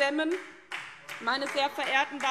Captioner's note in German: Beifall SPD